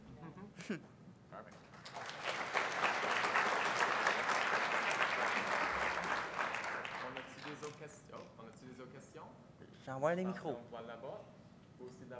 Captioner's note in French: applause